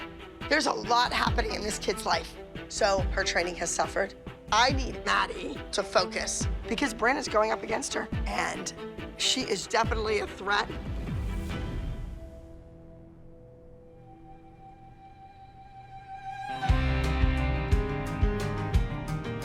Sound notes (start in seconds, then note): none